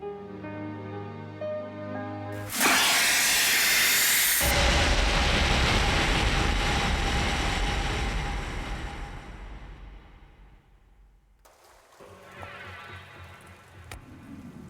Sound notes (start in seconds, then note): 2.4 hissing; 12.0 tense music